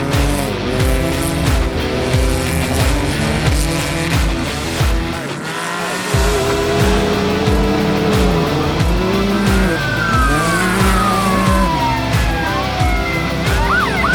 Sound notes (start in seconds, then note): 9.4 police Siren Wails